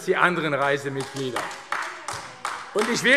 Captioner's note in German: Beifall AfD